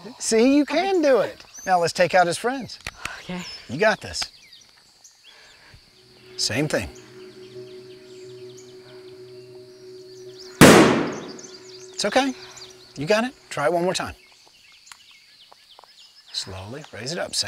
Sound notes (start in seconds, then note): 10.6 gunshot firing